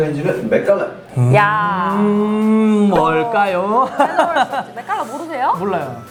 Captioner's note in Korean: 웃음